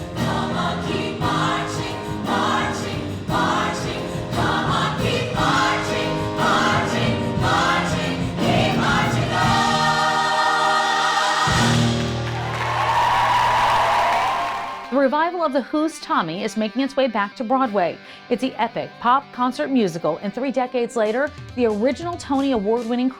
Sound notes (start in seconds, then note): 11.2 cheers, applause